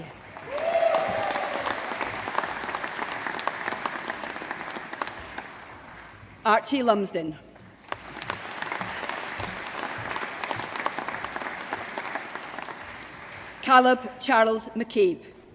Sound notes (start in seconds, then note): 0.0 applause; 7.6 applause